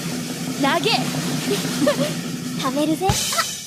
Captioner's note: laughs